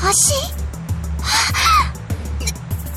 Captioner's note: gasp